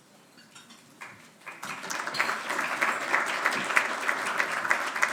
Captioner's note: audience applauding